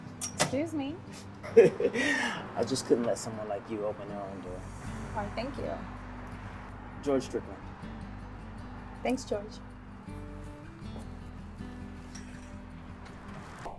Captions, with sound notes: - Excuse me. - (George laughing) I just couldn't let someone like you open their own door. - Why, thank you. - George Strickland. - Thanks, George. (gentle music continues)